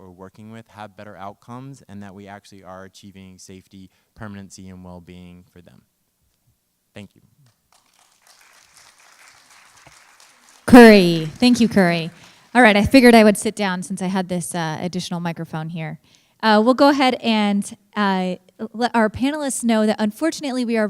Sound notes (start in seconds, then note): 7.4 applause